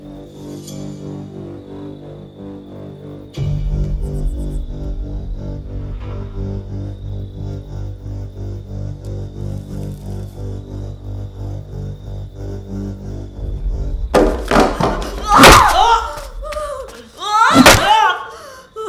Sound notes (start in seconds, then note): 14.1 thuds